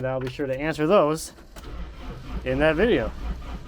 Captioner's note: engine starting